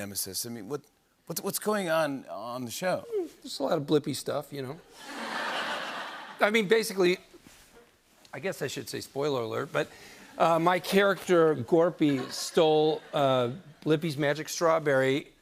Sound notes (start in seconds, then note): 5.0 laughter